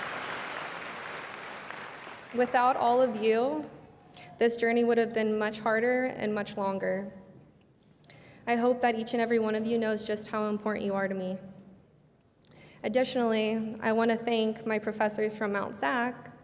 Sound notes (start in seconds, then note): 0.0 cheers and applause